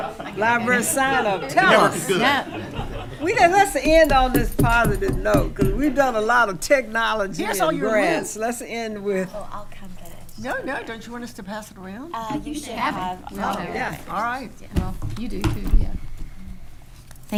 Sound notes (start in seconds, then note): 0.0 attendees chatting and laughing; 3.8 hitting table